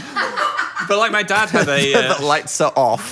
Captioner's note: people laughing